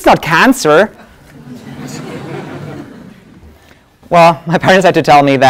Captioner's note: laugh